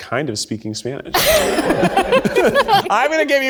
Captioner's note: laugh